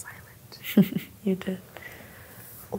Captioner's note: laughs